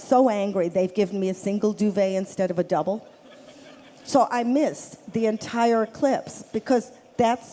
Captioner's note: laughter